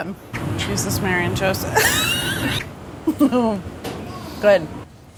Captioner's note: laughter